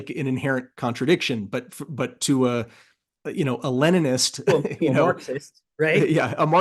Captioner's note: laugh